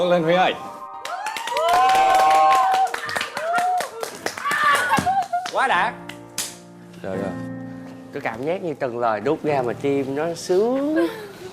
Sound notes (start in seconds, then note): 1.0 cheering